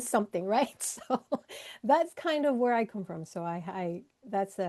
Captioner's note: laughs